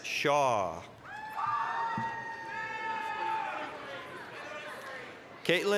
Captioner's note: applause, cheering